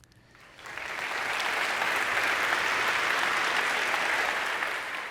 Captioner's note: congregation clapping